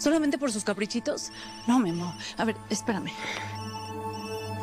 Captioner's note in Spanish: Suena el celular